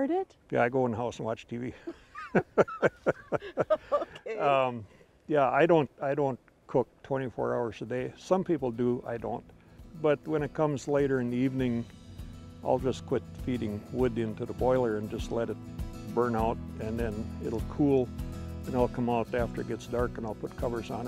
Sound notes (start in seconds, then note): 1.8 laughing